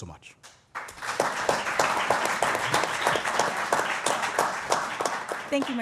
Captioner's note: applause